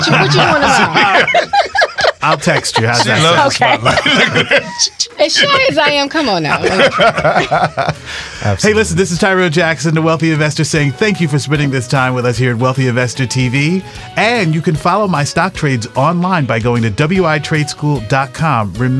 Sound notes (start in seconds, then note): 0.1 all laughing; 6.6 laughs